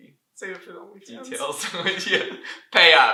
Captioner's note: laughter